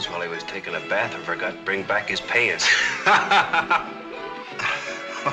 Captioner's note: lucky laughs